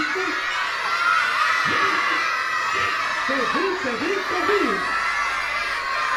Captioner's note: children screaming - “no”